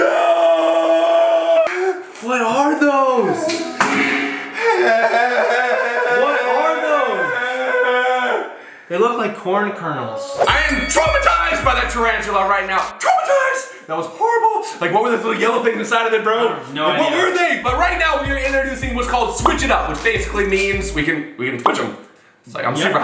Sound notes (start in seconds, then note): 0.0 screaming; 4.6 moaning; 10.4 bell dings